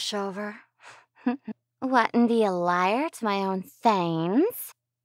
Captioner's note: delighted chuckle